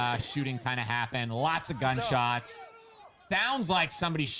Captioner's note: people protesting